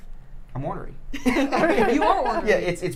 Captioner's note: people laughing